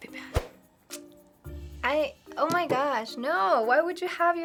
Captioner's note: clucking tongue